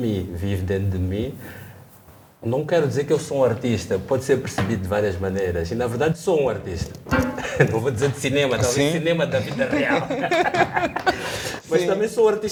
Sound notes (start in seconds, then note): 10.6 laughs